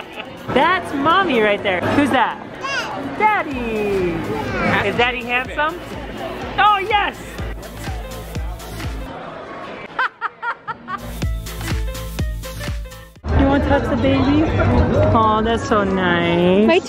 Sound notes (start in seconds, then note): 0.2 laughing; 9.9 laughs; 11.0 jazzy bright music